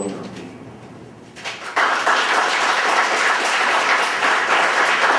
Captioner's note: audience applauding